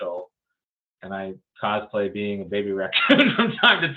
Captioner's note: laughs